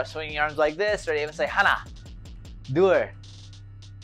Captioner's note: foreign language